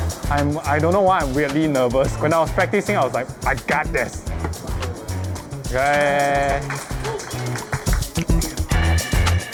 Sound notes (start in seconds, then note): 5.8 guests applaud